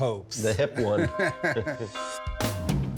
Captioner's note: both chuckle